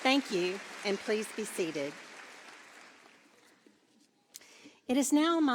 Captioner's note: applause